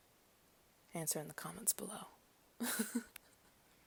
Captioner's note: giggles